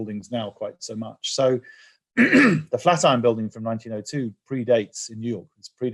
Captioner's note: cough